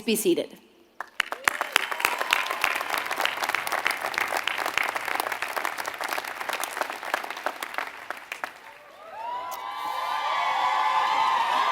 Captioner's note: applause